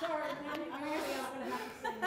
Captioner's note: laughter